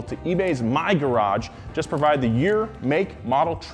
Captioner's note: none